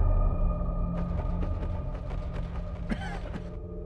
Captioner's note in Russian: неловкие шаги; кашель